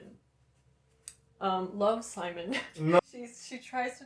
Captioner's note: laughter